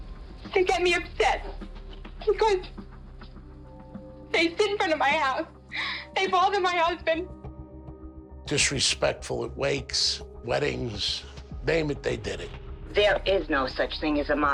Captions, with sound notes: They get me upset because... they sit in front of my house. [sobs] They bother my husband. ...disrespectful at wakes, weddings. Name it, they did it. There is no such thing as the Mafia.